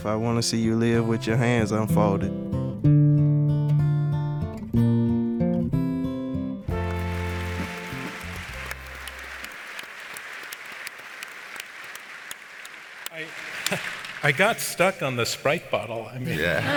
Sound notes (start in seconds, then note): 6.7 audience applauds; 16.2 audience laughs